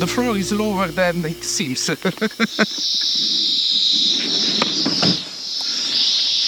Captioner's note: feet clack; laughs